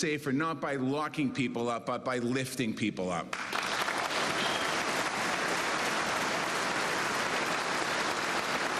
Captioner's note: cheers and applause